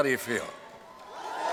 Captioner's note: cheering